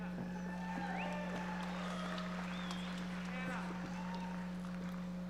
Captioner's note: audience members cheering and applauding